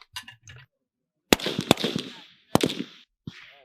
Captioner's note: gunshots